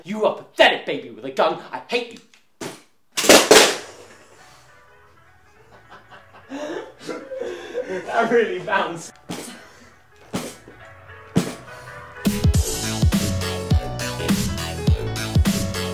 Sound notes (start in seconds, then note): 5.6 laughter; 8.9 hitting pram